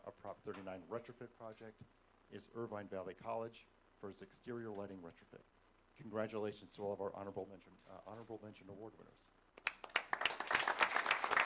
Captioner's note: applause